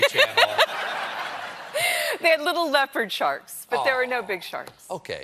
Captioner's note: laughter